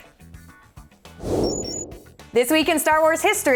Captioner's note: whoosh; beeping